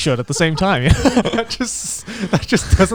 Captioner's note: group laughs